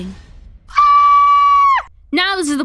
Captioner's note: scream